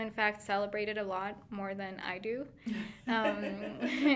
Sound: laughing

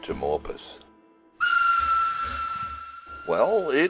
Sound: train whistle and steam noises

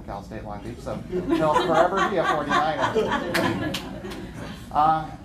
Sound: laughter

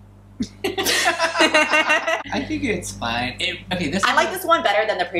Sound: laughter

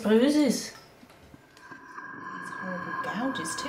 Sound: oxygen mask breathing sound

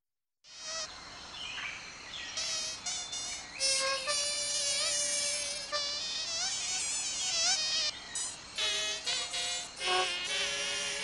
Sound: mosquito sounds

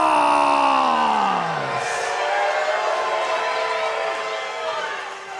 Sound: crowd cheers

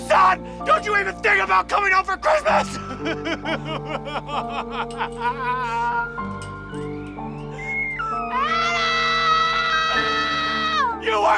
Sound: crying

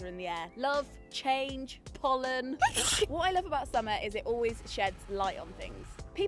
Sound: sneeze

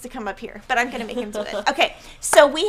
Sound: laughing

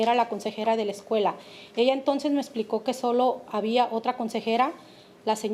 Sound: speaking Spanish

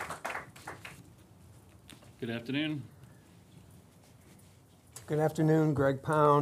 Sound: applause

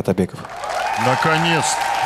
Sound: applause

